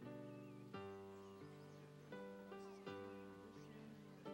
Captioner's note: congregation murmuring